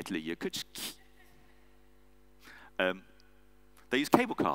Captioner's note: audience member laughs